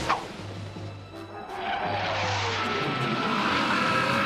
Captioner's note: jet engine streaking